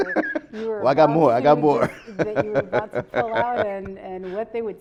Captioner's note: laughs